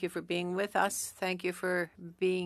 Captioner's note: speaking French